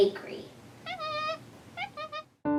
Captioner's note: monkey squeaks